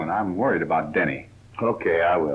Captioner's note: none